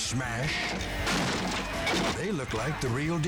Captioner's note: guitar smashing